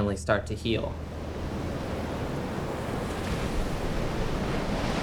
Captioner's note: waves crashing